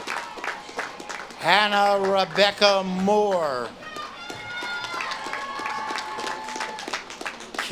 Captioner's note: audience claps and cheers